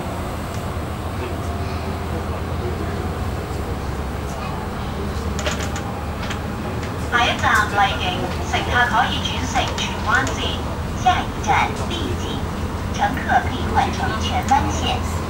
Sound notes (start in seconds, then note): 6.9 Cantonese